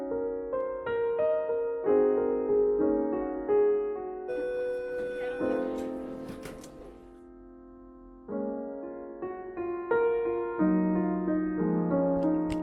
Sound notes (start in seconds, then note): 4.3 bell ringing; 8.2 piano music continues